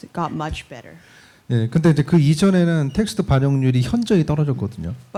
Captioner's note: speaking korean